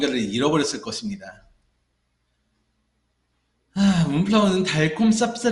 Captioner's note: sighing noises